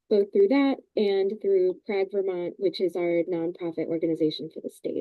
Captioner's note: none